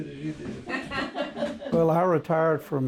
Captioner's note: all laughing